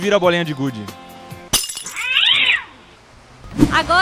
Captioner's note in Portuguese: Som de gato gritando